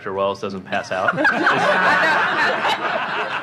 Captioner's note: laughter